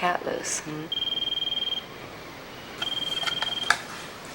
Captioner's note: phone rings